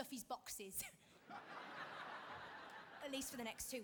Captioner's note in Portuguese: audience laughing